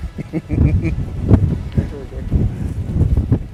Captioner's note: laughs